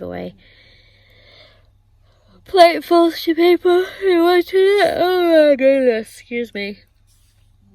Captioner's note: said in yawn